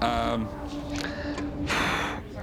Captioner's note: sighs